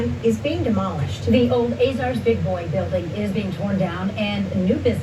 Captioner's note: on TV